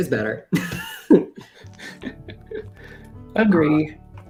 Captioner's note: laughter